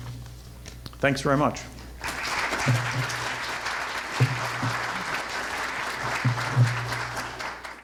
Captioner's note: audience applause